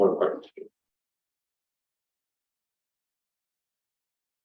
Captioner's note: silence